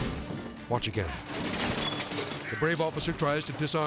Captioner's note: edgy dramatic music; men crashing